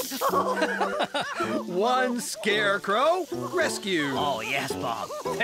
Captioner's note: chuckling